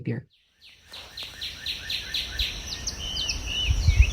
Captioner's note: birds chirping